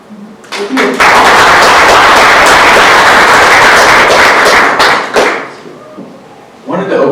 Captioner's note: clapping